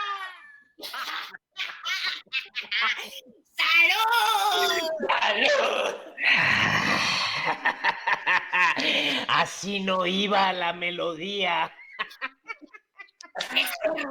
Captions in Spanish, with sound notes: [Risas] ¡Salud! Así no iba la melodía [Risas]